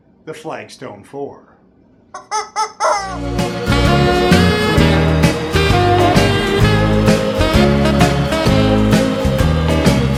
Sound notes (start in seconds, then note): 2.1 squawk, squawk, squawk; 3.0 upbeat music